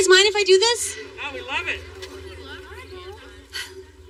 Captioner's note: indisistinct chatteter; sigighs